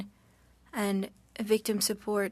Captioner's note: speaking French